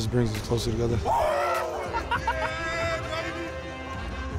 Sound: screams; laughing

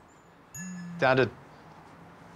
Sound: Ichabod's phone buzzes

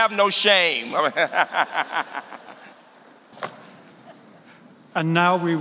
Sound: laughter

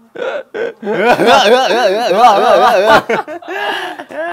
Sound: hehhehhehheh

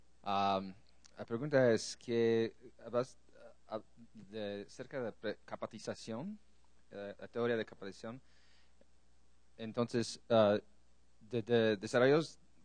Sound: Spanish

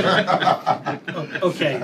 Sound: laughter

